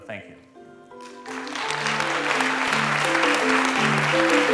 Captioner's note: applause